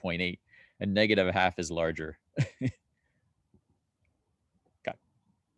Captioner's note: chuckling